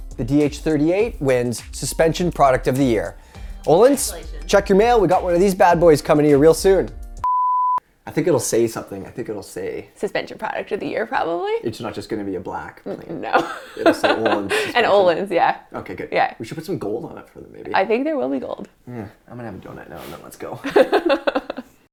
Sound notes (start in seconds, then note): 12.9 chuckles; 20.6 laughs